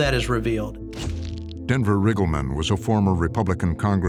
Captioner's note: shutter clicks